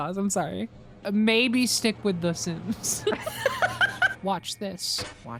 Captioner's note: both laugh